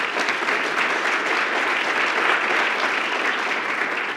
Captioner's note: applause